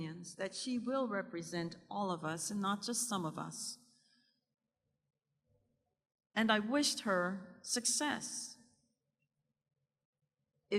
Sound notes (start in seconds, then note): none